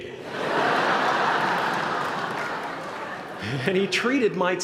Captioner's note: laughter